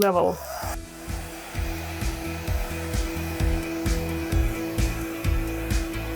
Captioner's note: blower whirring; pleasant music